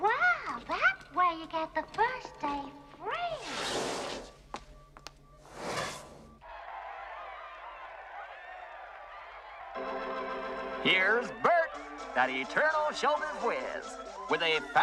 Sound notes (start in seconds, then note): 6.4 Аплодисменты зрителей По Телевизору